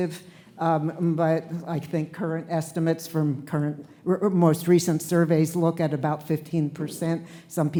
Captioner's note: none